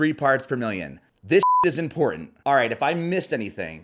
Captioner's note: beep